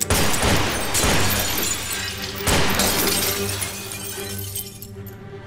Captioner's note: gunshots